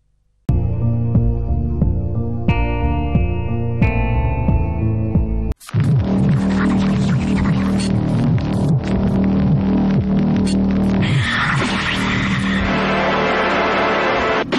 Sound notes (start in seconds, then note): 6.3 eerie music, whispering; 10.9 more whispering; 12.6 dramatic music